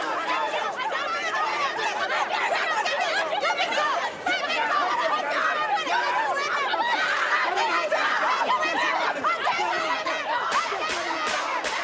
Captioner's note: yelling